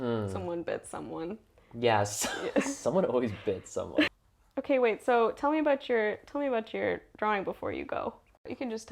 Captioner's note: laugh